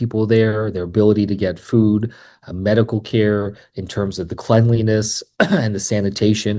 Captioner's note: clears throat